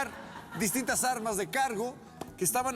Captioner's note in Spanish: risas